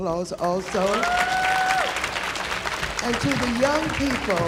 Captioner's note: audience applauding